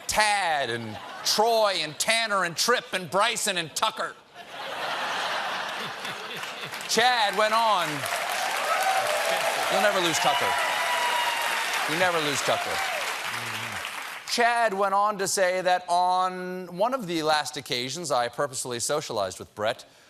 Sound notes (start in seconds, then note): 4.1 applause; 4.3 laughter